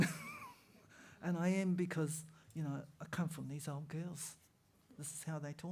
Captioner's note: laughter